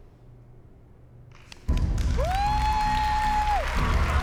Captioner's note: cheering and applause